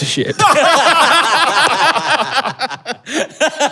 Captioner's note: group belly laughs